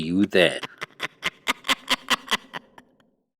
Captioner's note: crazy nun laughs